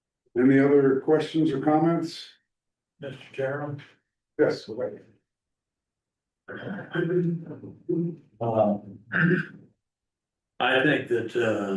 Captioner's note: clears throat